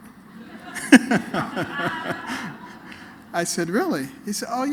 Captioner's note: laughter